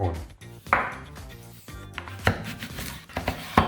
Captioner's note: knife chopping